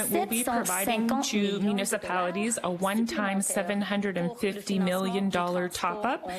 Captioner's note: speaking French